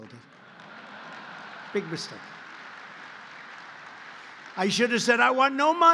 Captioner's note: laughter and applause